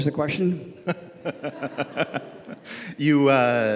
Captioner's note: laughs